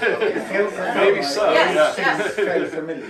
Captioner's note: laughter